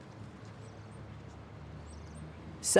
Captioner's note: distant birds chirping